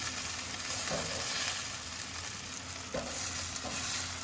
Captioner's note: pan sizzling